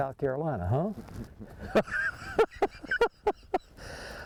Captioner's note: laughs